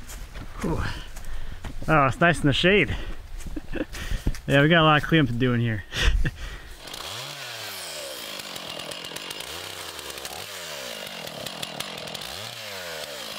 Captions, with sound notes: Oh, it's nice in the shade. Yeah, we got a lot of clean up to do in here. (chainsaw whirring)